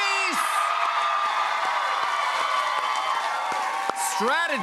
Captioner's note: cheers and applause